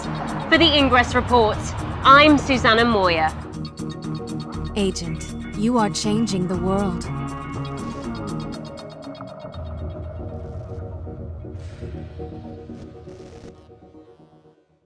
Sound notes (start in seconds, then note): 4.7 voiceover